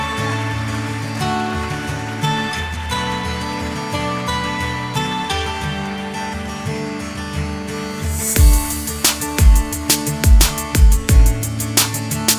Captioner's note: applause